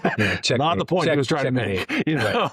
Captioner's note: both Laughing